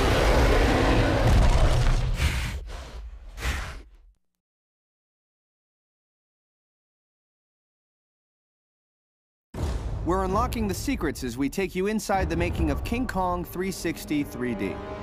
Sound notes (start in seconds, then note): 0.0 loud roar; 2.1 snorting